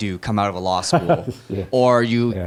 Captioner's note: laugh